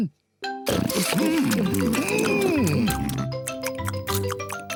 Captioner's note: all chomping